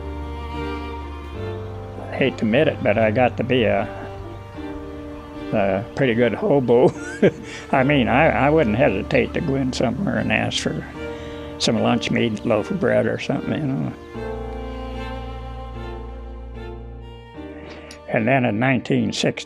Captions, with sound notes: I hate to admit it but I got to be a pretty good hobo (chuckles). I mean I wouldn't hesitate to go in somewhere and ask for some lunch meat and a loaf of bread or something, you know. And, then in 1961,